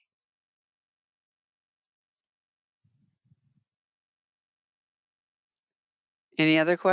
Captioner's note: 5 seconds pause